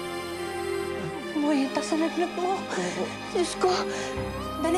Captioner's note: groans